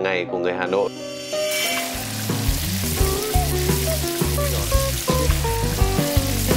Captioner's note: fat boiling sound